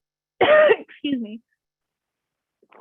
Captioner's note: coughs